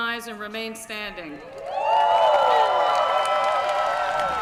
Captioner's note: cheering